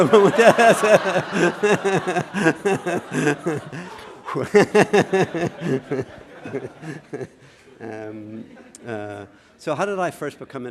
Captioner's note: laughter